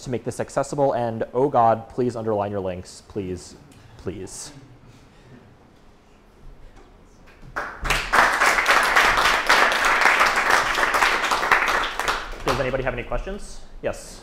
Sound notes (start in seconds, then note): 10.4 applause